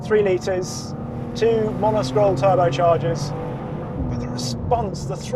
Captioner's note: vehicle revs